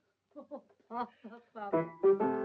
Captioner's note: chuckling; piano plays